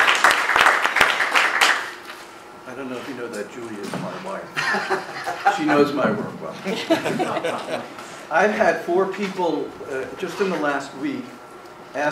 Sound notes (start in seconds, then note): 4.6 laughing